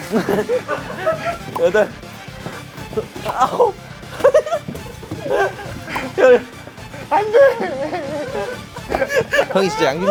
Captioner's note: tennis balls caught; tennis balls caught